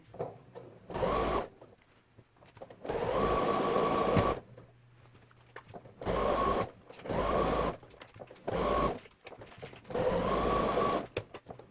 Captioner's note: sound of sewing machine